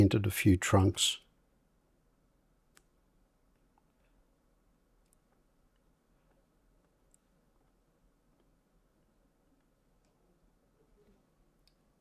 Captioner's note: silence